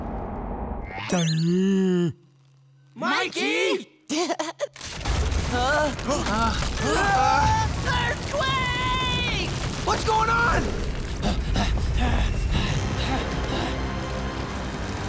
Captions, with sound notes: [moaning] Mikey! [chuckles] [groaning] Earthquake! What's going on?